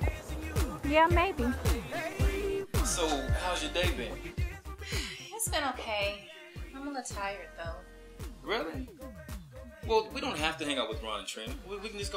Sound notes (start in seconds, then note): 4.8 sighs